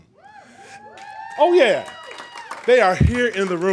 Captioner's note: cheers